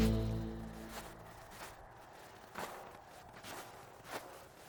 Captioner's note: wind gusting